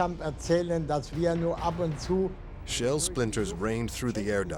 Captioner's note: speaking german